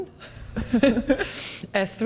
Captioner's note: both laughing